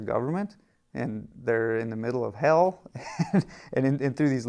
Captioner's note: laughing